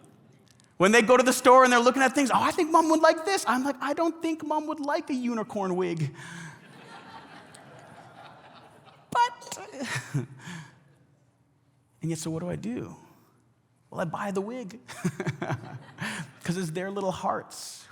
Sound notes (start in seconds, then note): 6.0 congregation laughs